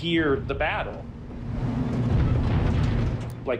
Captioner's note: rumbling